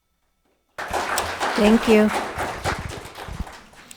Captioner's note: audience clapping